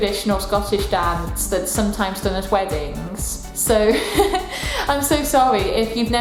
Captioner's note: laughter